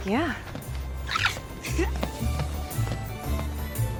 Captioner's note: peyton giggling